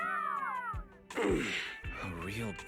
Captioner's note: Anton grunting